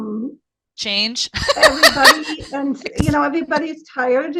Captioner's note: laughing